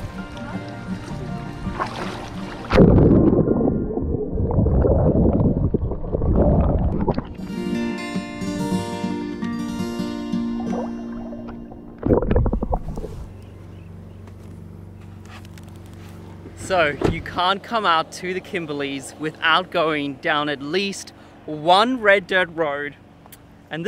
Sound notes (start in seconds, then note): 0.0 relaxing music; 4.1 splashing water; 7.2 relaxing music